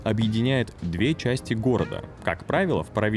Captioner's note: operator's voice